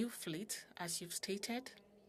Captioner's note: speaking French